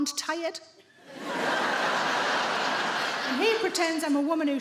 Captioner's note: audience laughing